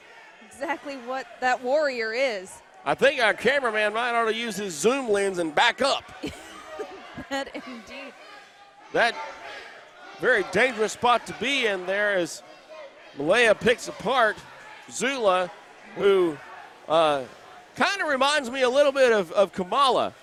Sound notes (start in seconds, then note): 6.2 laughing